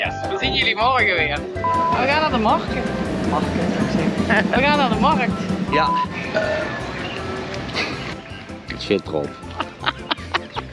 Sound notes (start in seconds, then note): 6.3 burrrrp